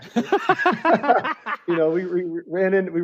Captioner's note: laughter